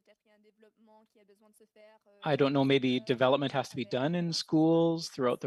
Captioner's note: speaking French